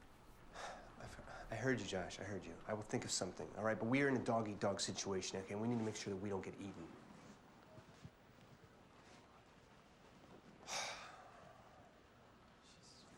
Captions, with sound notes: - I heard you, Josh, I heard you. I will think of something, alright, but we are in a dog eat dog situation in here, and we need to make sure we don't get eaten. (sighs)